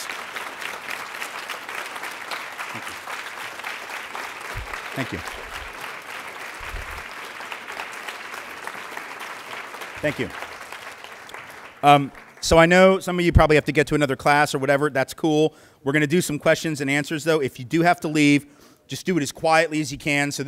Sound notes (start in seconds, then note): 0.1 clapping; 9.5 clapping